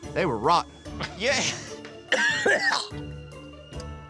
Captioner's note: dry heaving